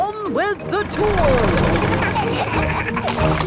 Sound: laughing

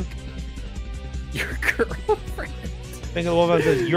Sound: laughs

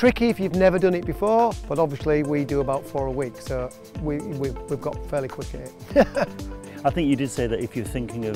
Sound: laughs

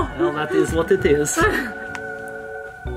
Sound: laughs; quirky music

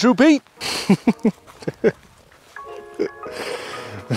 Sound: laughing

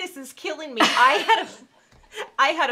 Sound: both laughing

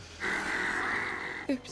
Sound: hiss

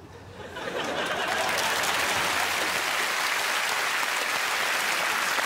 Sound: laughter, applause

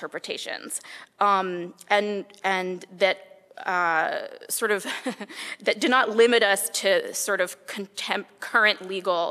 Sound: laugh

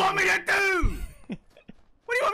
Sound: Pewds laughing because of Brad

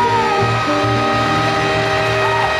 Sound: people cheering

